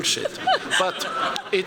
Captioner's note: laughter